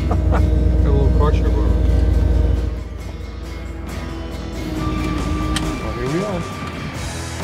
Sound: laughs

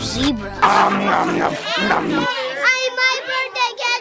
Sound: dad makes eating noise

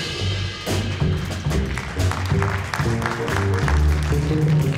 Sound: audience applauding; dynamic jazz music

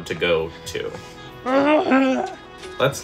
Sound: lackadasical grumbling

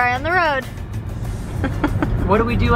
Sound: giggles

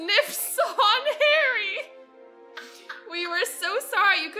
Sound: laughs; laughs

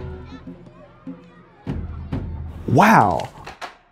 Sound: children murmuring

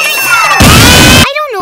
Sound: cue smash bros ko

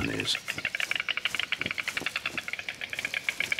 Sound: storks nattering

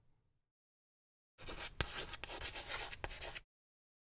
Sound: writing on chalkboard

